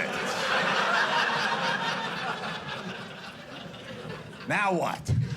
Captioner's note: audience laughing